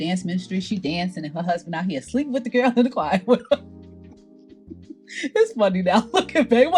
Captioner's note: laughs